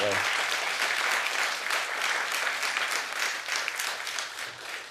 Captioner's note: audience clapping